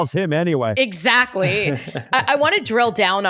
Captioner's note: laughs